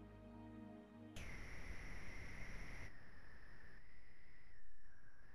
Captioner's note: static crackles